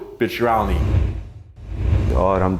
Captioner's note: whooshing; speaking in foreign language